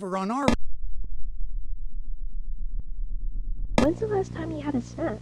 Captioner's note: rumbling continues